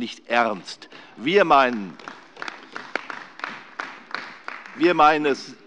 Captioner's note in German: Beifall bei der CDU